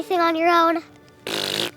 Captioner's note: spitting sound